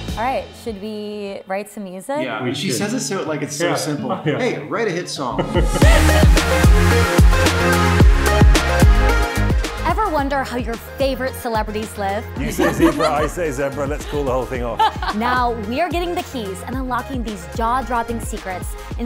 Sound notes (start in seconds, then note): 5.3 all chuckle; 5.8 pop music; 14.8 chuckles